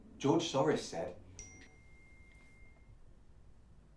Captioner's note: phone pings